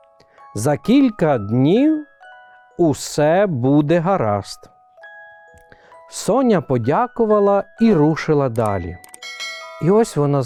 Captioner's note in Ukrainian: дзвін